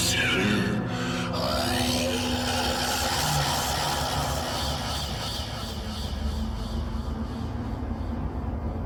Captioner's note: roars